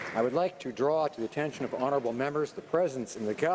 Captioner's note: some Applause